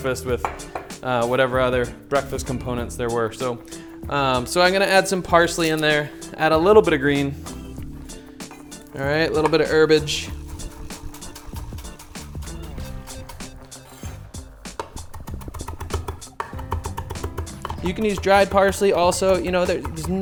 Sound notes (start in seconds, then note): 10.5 upbeat music; 14.6 chopping